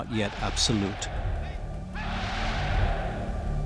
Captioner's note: crowd chants "Sieg Heil!"